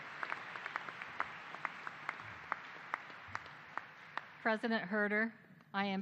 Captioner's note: applause